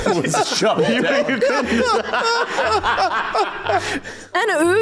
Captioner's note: laughs